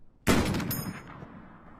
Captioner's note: rifle shot